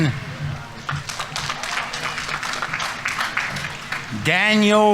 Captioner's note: audience applauding